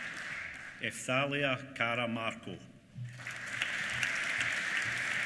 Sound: applause

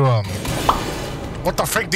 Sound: pop Sound effect

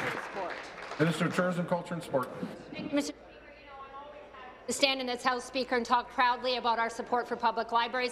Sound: applause

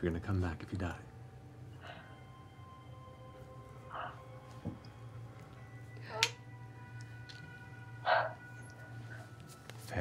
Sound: clicks tongue

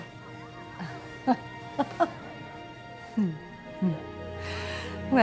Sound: Olivia laughs

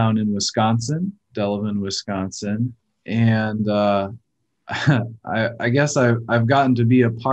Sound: chuckles

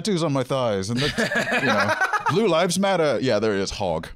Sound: laughing

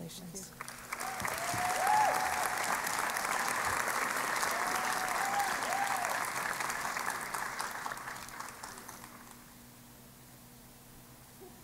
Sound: applause and Cheering

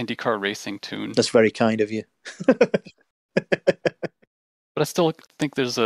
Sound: laughter

